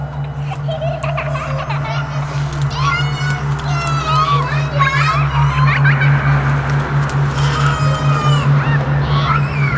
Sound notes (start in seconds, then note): 0.1 child laughing